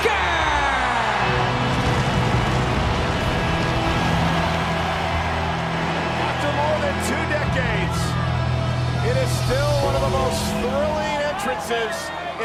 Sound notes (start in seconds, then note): 0.1 crowd cheering; 2.3 pyro roaring